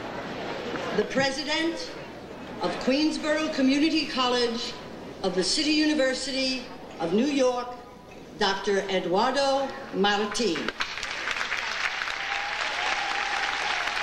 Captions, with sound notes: The president of Queensborough Community College of the City University of New York, Dr. Eduardo Marti. (audience applauding)